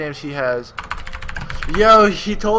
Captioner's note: keyboards clanking